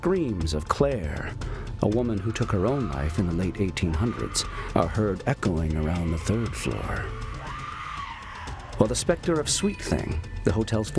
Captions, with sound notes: And the screams of Claire, a woman who took her own life in the late 1800s, are heard echoing around the third floor. [screams] While the specter of Sweet Thing,